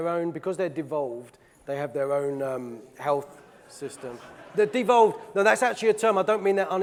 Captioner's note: audience laughing